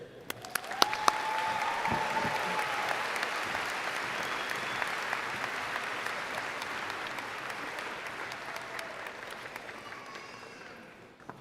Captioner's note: applause